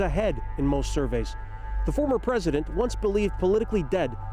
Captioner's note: chants